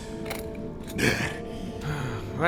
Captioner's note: Quaff breathes heavily